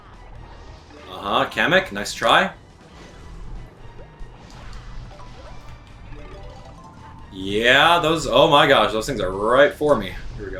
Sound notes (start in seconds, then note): 4.2 Koopa Troopa pops